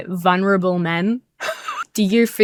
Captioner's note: wheezes